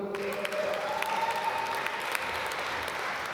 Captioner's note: applause